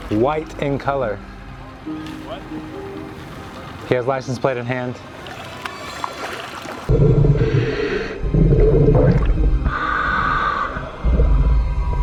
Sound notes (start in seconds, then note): 7.2 air hissing